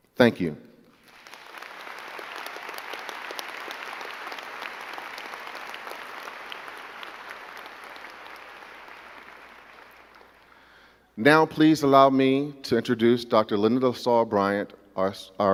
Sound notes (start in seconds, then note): 1.7 crowd clapping